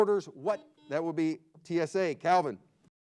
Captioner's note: buzzer beeps